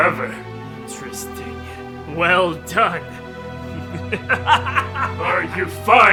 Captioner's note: laugh